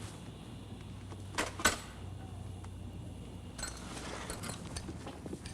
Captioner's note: tool clanking